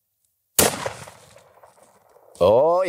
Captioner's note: gun shot